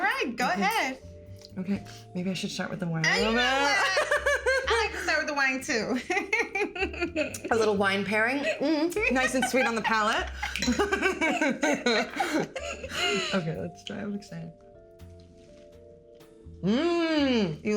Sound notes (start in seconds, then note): 5.9 laughing; 9.0 both laughing